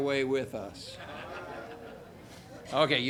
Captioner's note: audience laughing